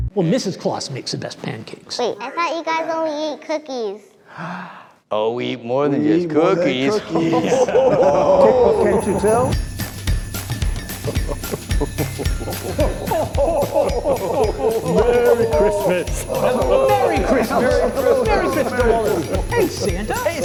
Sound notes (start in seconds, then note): 6.6 laughing; 10.4 jolly Christmas music; 11.7 laughing